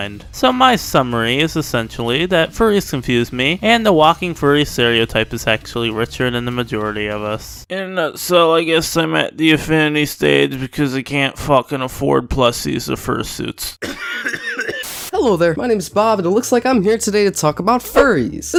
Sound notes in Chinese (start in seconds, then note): 13.8 咳嗽.mp3